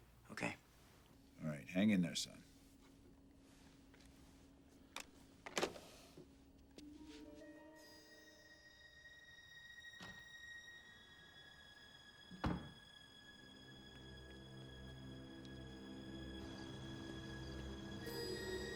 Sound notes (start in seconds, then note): 5.8 phone thuds; 6.8 suspenseful music; 12.4 door thuds